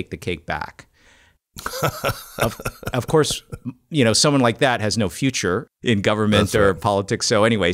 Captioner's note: laughs